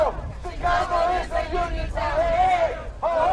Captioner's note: chanting